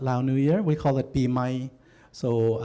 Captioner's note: non-english speech